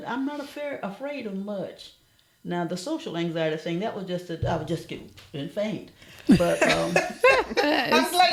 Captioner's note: laughter